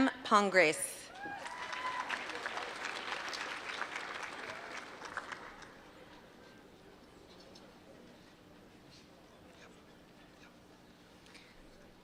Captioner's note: applause